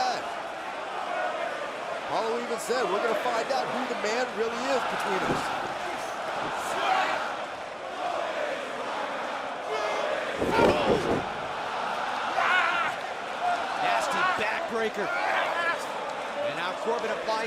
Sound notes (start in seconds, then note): 3.8 crowd cheering